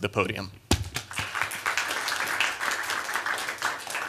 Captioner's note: applause